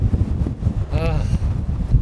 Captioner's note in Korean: 하아